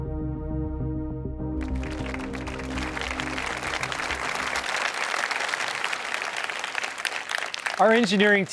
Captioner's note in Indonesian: Tepuk tangan